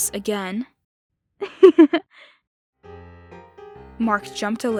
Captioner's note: laughter